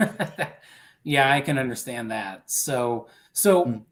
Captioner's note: laughter